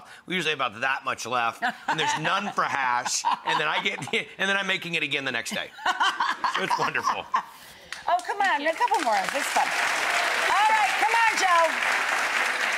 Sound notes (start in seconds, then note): 5.8 laughing; 10.1 audience clapping